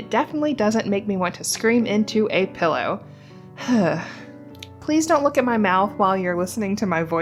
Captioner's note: sigh